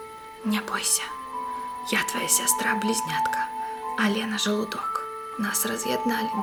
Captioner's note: speaking in Belarusian